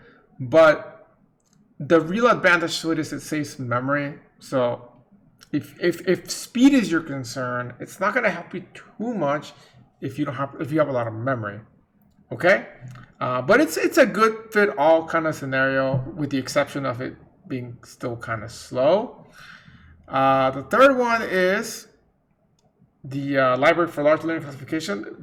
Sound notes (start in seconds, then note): none